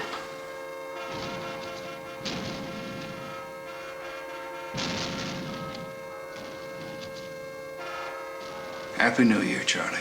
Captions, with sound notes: (fireworks cracking) Happy New Year, Charlie.